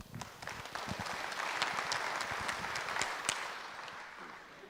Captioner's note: audience applauds